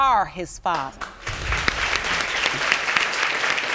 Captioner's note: applause